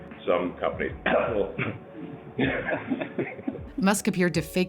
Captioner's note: cough